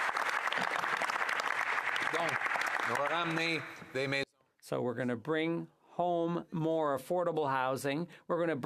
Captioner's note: applause